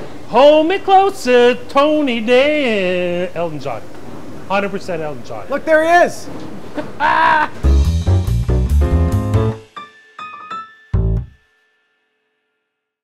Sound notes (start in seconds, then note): 6.7 laughing; 7.6 upbeat music